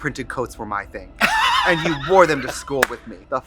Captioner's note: Katya laughs